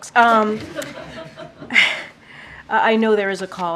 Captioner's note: laughter